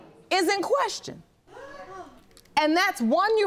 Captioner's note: audience gasps